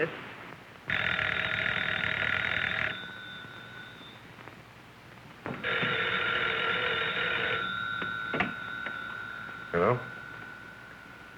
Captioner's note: phone ringing